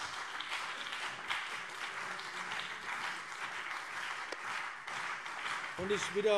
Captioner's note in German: Beifall BÜNDNIS 90/DIE GRÜNEN und CDU